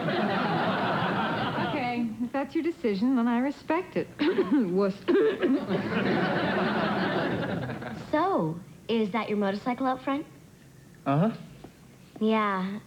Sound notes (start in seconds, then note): 5.0 cough